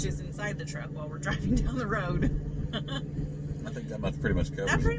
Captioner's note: laughs